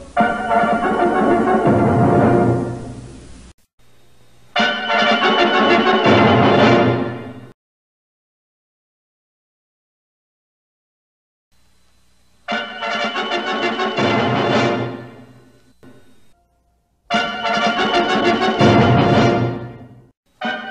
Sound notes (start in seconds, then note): 8.3 silence; 12.5 bombastic fanfare plays; 17.1 bombastic fanfares continuing until the next logo variant